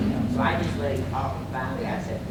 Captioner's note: audience agreeing